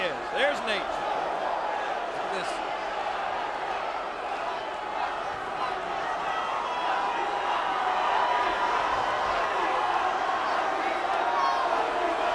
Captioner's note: applause